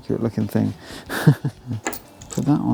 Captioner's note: laughs